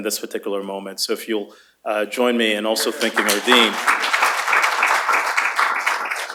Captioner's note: applause